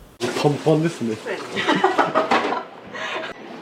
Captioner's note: laughs